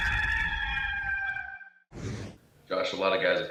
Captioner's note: rooster crows